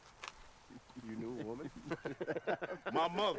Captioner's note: laughs